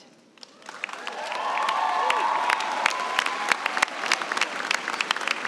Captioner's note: cheers and applause